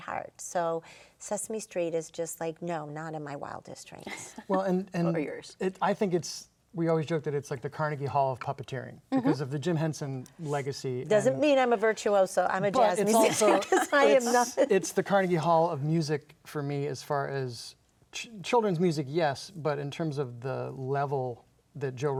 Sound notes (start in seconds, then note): 4.0 chuckling